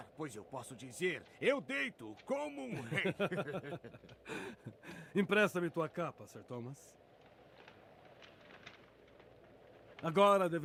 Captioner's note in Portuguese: risadas; suspirando